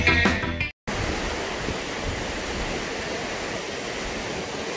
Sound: sounds of water crashing

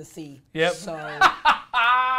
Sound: laughs

